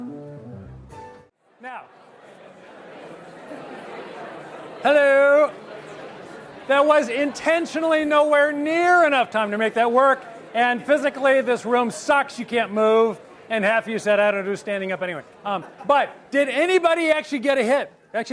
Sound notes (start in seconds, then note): 0.0 guitar music; 1.6 audience chattering